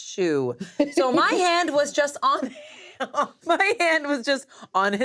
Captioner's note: laughs